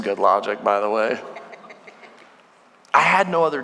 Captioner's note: congregation laughing